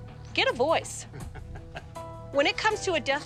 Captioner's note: laughs